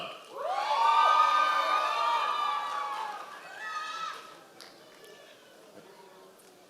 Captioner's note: members of the audience cheering